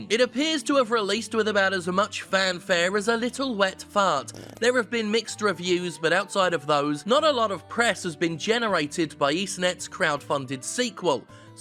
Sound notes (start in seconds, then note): 4.2 farting